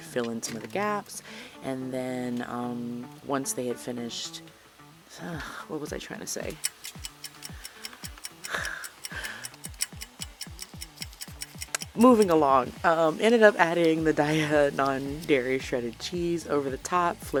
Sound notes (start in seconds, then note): 9.7 clock ticking